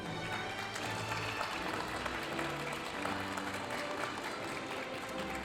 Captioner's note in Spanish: aplausos de la audiencia